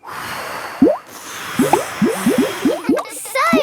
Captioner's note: all blowing